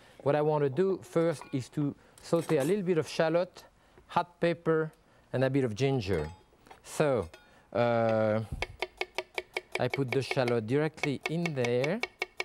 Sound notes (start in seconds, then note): 8.6 knife knocking